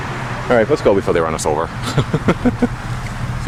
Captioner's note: laughing